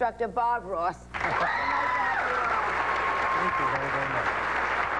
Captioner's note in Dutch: publiek klapt